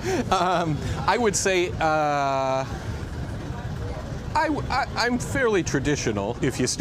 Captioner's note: laughter